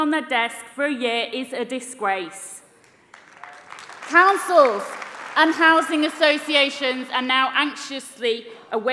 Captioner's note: applause